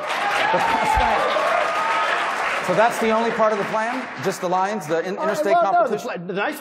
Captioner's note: applause